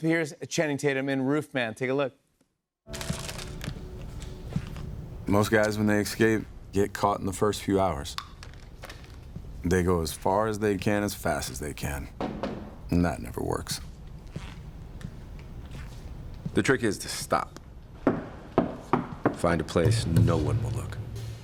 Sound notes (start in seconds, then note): 12.2 Knocking; 18.5 Knocking; 19.8 hollow knock